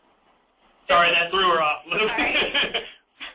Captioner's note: laughs